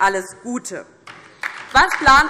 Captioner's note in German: Beifall DIE LINKE und vereinzelt SPD